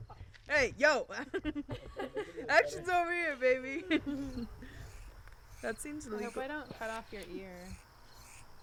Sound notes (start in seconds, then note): 0.0 laughter; 4.2 laughter; 6.0 sound of scissors